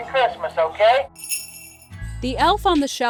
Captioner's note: bells jingling